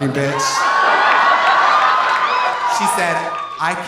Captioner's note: audience applauding; audience cheering